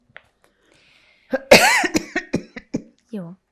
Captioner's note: coughing